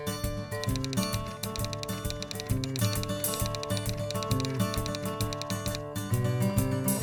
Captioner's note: typewriter sounds